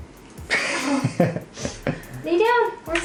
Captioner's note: laughs